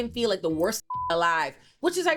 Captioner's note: beep